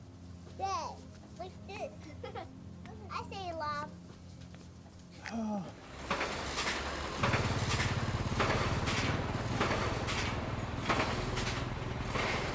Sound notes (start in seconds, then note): 1.7 child chuckling; 5.2 sighing; 5.7 construction vehicles rumbling